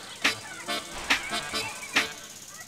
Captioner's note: quiet children's voices